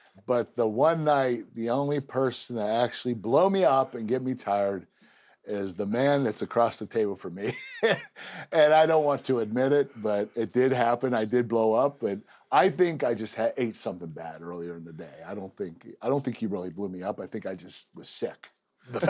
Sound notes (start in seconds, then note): 7.4 laugh